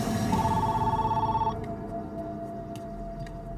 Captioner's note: phone rings